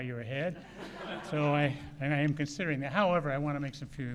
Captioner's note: laughter